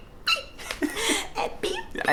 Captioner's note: both laugh